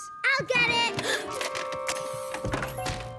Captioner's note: doorbell rings; gasps